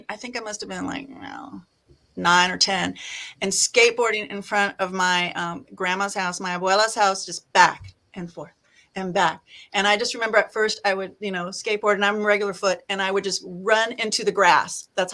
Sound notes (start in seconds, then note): 6.4 speaking Spanish